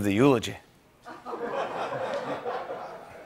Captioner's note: laughter